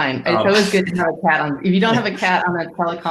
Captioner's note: speaks faintly